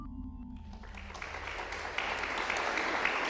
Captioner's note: applause